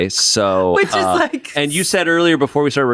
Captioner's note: laughs